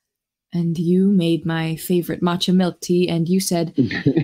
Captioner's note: laughs